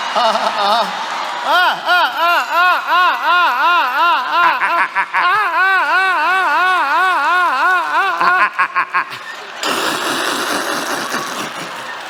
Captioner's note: La risa